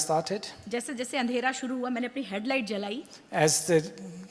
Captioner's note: speaks foreign language